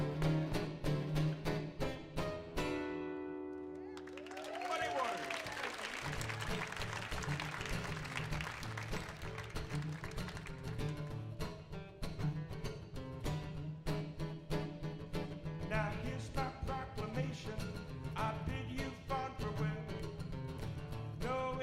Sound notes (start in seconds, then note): 6.4 audience whoops and applauds; 9.9 upbeat guitar music